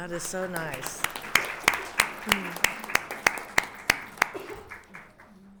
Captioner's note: everyone applauding